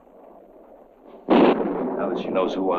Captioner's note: thunder rumbling